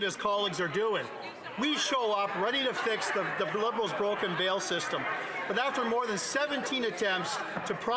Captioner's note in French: voix de l'interprète